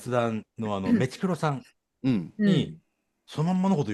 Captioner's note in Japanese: 咳払い